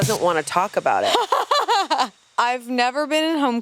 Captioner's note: laughs